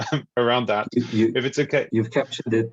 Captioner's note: laughs